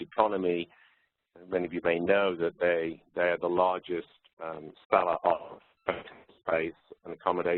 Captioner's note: distorted audio